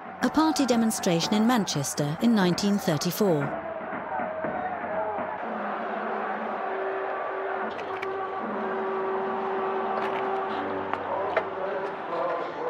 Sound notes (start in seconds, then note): 5.9 crowd singing; 5.9 horn blaring